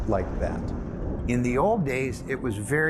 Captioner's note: thunder clapping